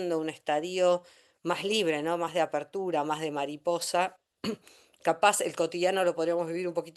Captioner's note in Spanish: carraspeo